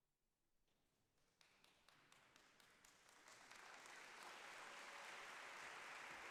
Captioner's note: applause